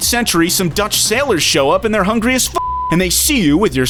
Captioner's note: beep